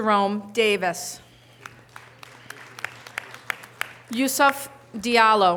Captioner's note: audience applause